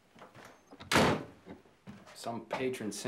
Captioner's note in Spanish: portazo